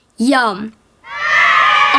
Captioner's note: cheers